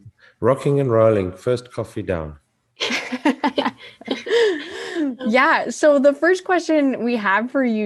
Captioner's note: all laugh